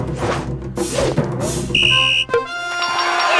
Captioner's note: blows whistle; cheering